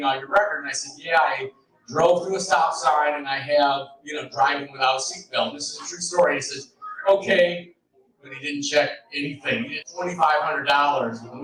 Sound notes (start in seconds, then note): none